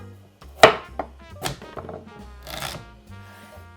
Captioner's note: knife cutting